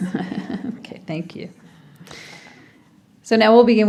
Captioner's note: laughs